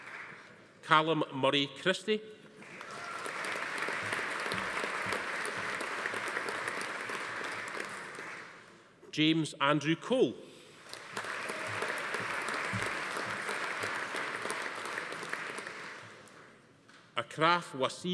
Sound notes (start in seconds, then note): 2.6 audience applauding; 2.8 attendee cheering; 10.8 audience applauding; 11.2 attendee cheering